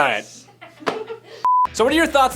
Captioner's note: laughing